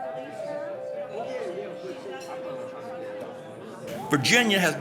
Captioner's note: people chatting